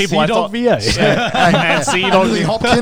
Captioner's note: all laughing loudly